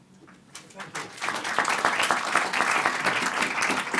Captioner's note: applause